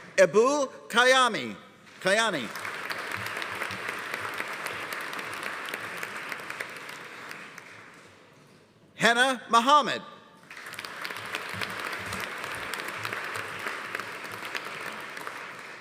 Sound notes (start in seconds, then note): 2.0 audience applauding; 10.4 audience applauding